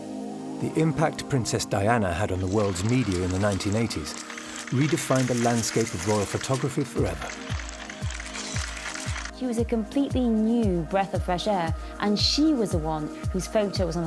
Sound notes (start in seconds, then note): 7.3 shutters clicking